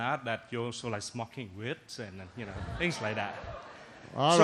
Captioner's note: laughter